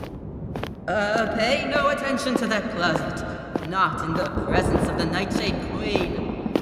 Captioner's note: booming voice